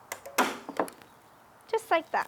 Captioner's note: staple gun clicking